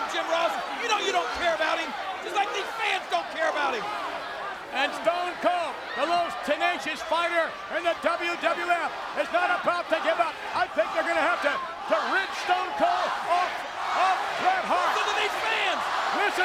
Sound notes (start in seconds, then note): 10.1 audience chanting